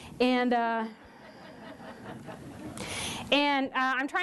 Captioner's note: laughter